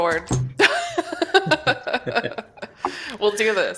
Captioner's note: laughter